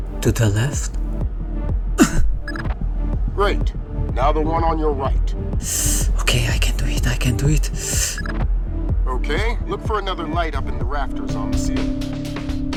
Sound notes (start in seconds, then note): 5.6 nervous hiss